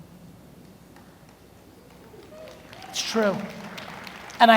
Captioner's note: audience murmurs